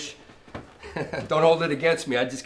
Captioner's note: chuckles